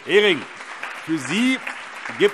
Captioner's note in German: Allgemeiner Beifall